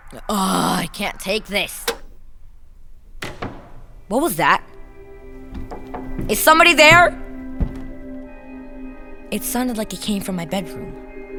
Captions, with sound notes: Ugh! I can't take this! [ TV click off ] [ Loud thumping ] >> What was that? [ Knocking ] >> Is somebody there? [ Footsteps ] It sounded like it came from my bedroom.